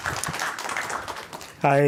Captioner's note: applause